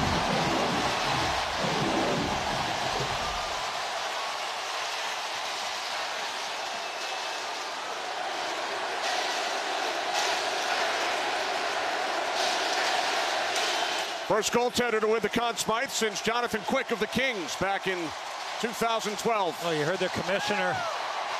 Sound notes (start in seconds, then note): 5.8 cheers and applause